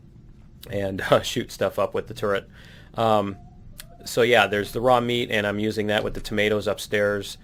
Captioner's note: laughs